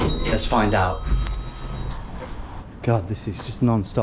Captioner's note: elevator beeps